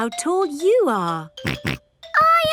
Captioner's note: snorts